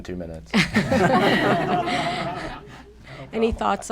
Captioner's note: laughter